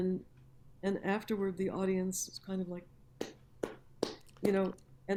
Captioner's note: claps lazily